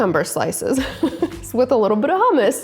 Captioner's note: laughing